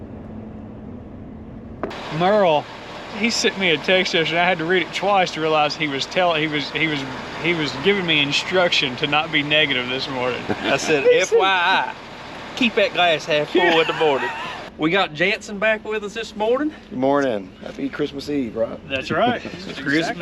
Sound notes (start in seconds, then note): 13.4 laughs